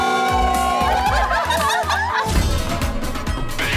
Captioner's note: laughing